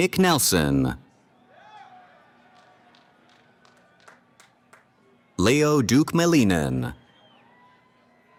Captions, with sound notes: >> Nick Nelson. [ Cheering ] Leo Duke Malinen.